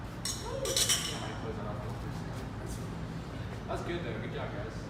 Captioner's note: glasses tinking